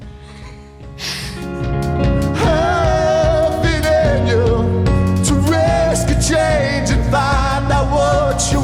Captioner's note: laughs